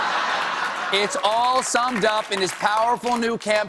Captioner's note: laughter